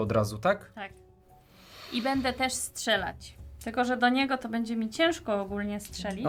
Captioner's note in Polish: parsknięcie